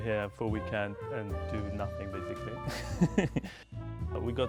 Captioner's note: laughs